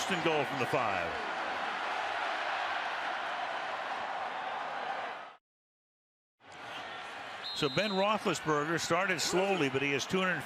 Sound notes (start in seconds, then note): 2.3 cheers, applause